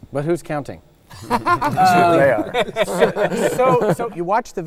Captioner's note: laughs